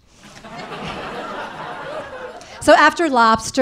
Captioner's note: audience laughing